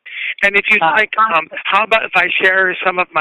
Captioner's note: chuckle